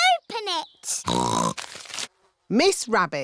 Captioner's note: snorts